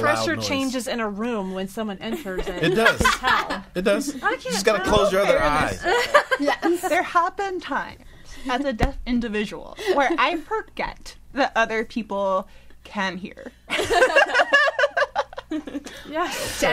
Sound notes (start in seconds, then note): 5.8 laughter; 13.7 all laughing